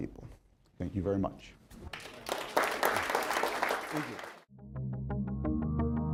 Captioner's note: crowd applauding